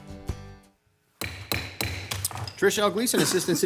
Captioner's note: bangs the gavel